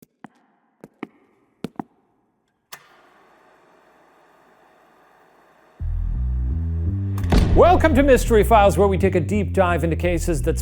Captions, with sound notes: (feet shuffling) (projector clicks) (dramatic music) - Welcome to "Mystery Files," where we take a deep dive into cases that span